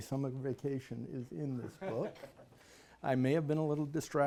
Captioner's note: laughs